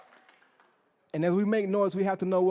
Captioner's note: cheering